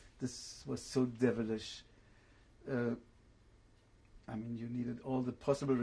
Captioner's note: pauses for 3 seconds